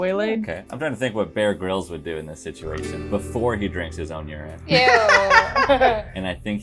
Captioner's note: laughter